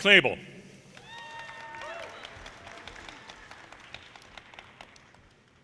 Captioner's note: audience cheers and applause